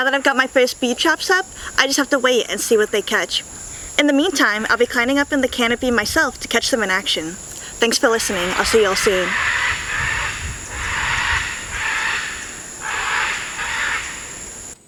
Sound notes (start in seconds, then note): 10.5 angry parrot noises